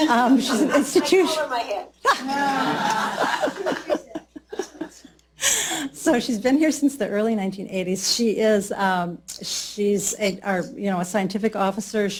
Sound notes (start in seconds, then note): 2.0 laughter